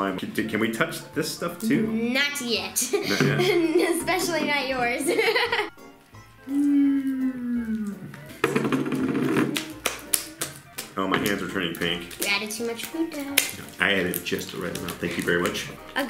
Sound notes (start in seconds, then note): 4.9 laughs; 6.9 slime squishing